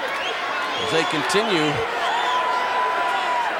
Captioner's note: audience cheering